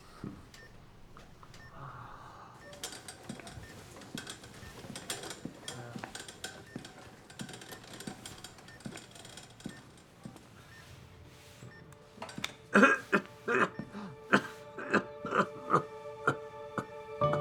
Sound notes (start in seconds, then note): 2.8 the sound of the wheelchair and steps; 12.2 Florio coughs heavily